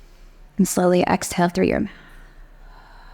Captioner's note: exhales